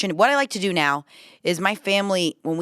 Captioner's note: none